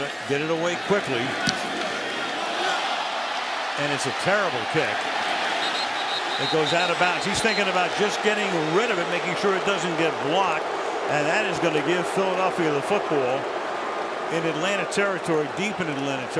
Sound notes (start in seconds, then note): 3.1 cheering; 5.5 whistle; 11.2 booing